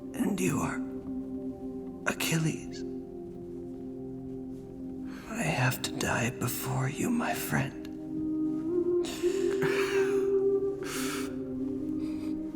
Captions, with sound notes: And you are... Achilles. I have to die before you, my friend. [sobbing]